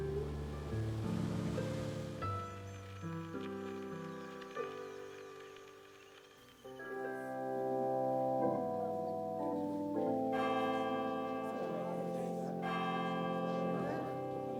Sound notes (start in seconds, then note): 6.5 organ playing; 9.4 church bell ringing